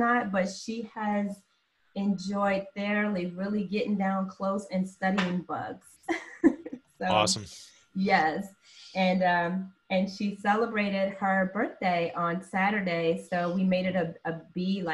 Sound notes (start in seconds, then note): 6.1 laughter